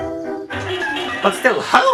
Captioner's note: pans clattering